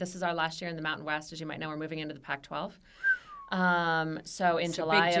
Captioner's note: whistle